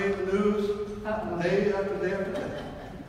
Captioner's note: laughing